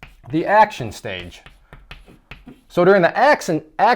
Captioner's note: chalk writing